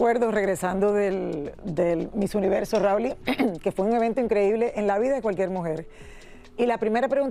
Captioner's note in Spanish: carraspeo